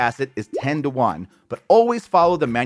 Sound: graphics popping

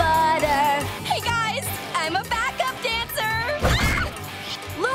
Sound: screaming

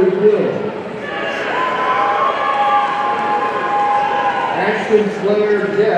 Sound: audience cheering

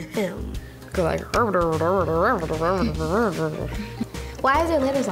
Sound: murmurs

